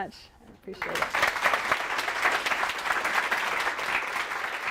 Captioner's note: applause